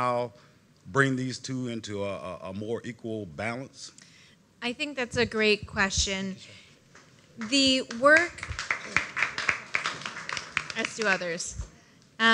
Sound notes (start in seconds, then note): 7.4 applause